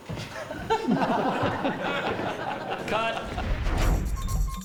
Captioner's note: all Laughing